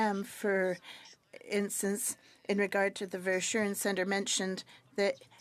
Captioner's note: speaking French